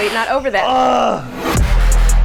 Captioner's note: groans; upbeat music